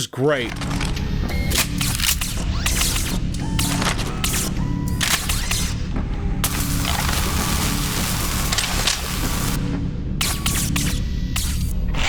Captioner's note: clicking, whirring, zapping & drilling noises